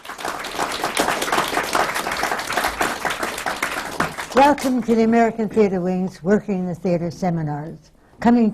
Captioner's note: applause